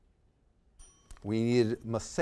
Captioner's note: bell dings